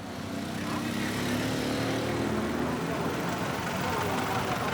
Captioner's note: motors roaring